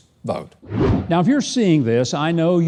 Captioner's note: whooshes